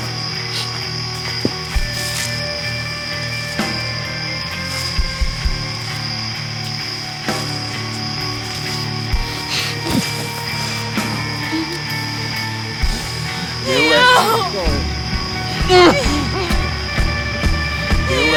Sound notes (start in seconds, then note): 0.1 tense rock music continues; 9.5 Theo grunts; 11.4 Cammy softly whimpers; 15.6 Theo groaning